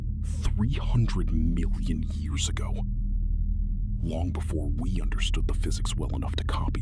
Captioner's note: thoughtful